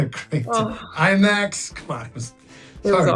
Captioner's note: sighing